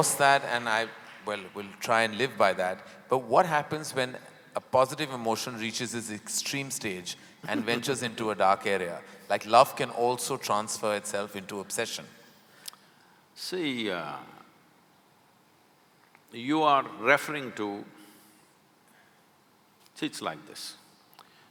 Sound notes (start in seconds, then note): 7.4 Sadhguru laughs